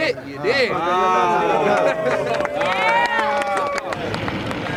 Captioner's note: cheers and applause